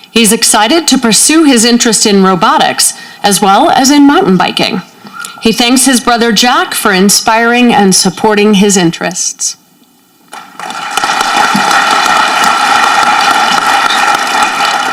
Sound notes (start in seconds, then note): 10.3 audience clapping